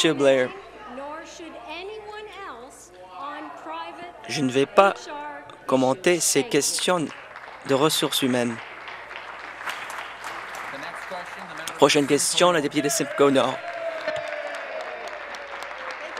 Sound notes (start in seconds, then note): 11.4 applause; 15.9 applause